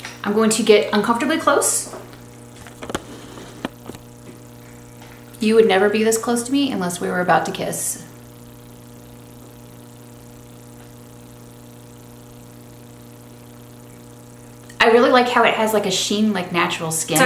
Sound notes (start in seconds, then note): 2.6 camera zooming